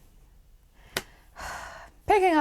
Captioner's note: sigh